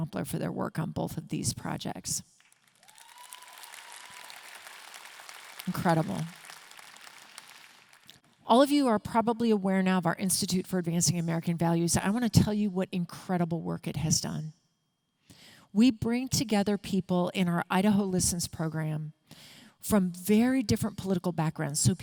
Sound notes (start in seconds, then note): 2.4 audience clapping and cheering